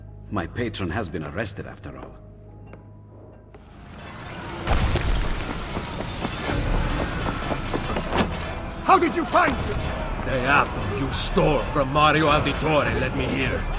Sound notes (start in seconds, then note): 4.8 sounds of battle